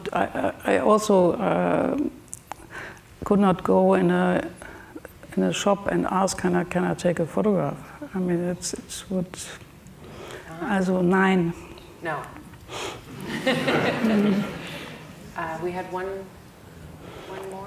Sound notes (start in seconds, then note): 13.1 audience laughing